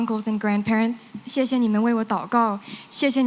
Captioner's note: non-english